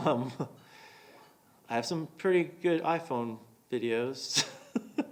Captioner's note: chuckling